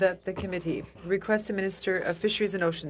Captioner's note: speaking in French